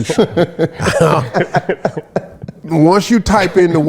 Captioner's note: laughs